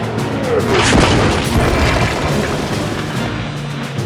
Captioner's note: bomb exploding